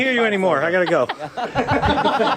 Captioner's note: laughter